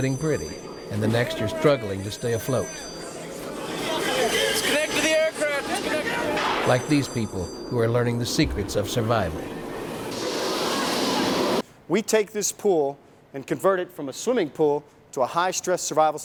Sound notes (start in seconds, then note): 4.8 men yelling